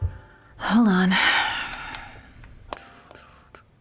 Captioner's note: sighs